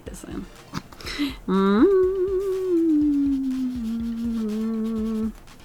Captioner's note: hums tunefully